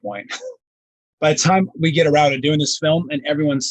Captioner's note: laughing